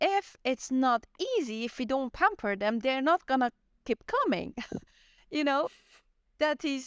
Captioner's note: laughter